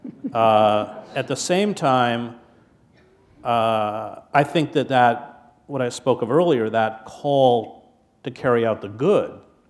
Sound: laughter

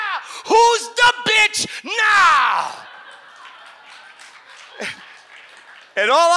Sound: audience laughs and applauds

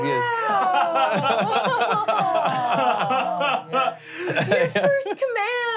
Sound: laughing

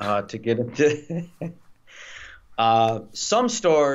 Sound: both laughs

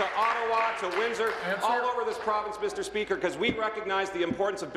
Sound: applause

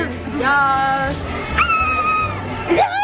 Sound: high pitched screaming

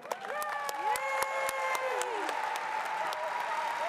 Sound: audience applauding

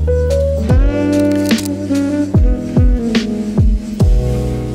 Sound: camera clicking

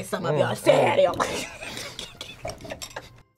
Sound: both laugh

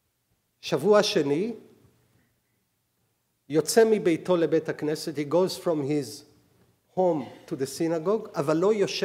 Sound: speaking hebrew

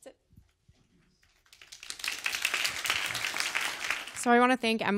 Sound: applause

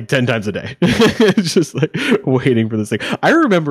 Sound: laughing

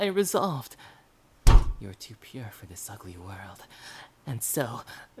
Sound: slam

